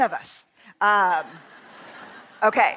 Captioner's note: laughter